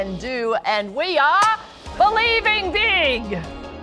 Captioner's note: party popper popping